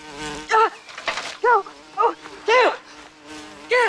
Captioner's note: buzzing continuous; exclaiming; gasping